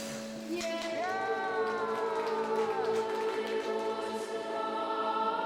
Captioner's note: cheering and clapping